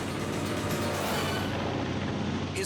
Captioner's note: engine roars